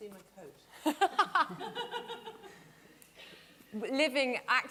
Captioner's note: laughing